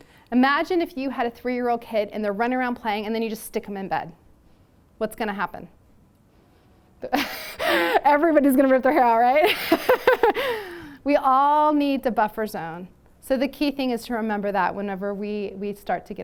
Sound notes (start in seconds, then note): 9.4 laughter